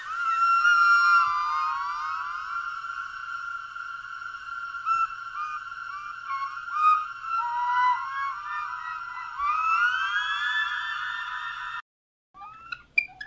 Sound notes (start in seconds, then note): 0.2 delayed and reverberated; 0.2 sounds of a small flute; 5.3 it sounds a bit hesitant, frustrated